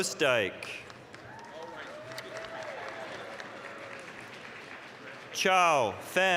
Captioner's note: applause, cheering